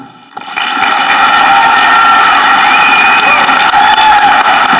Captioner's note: audience clapping